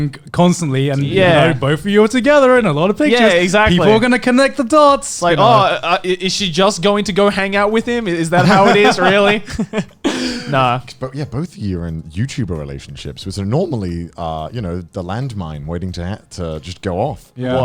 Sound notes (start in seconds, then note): 8.3 laughing